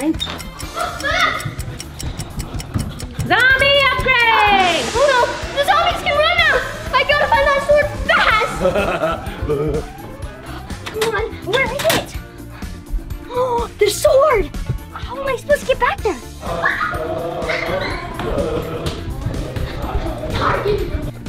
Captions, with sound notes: [clock ticking] Zombie Upgrade! Oh no, the zombies can run now! I gotta find that sword fast! Come on, where is it? The sword! How am I supposed to get back there? [screaming] [upbeat music]